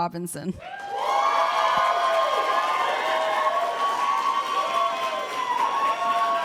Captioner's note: applause